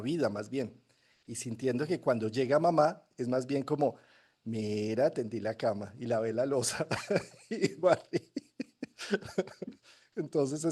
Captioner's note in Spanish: risas